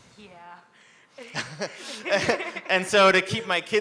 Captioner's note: both laugh